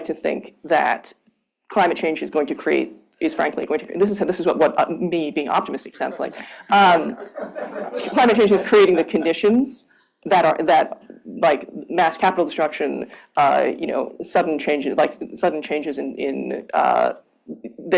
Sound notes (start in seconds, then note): 6.9 laughter